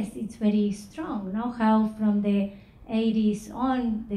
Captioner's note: none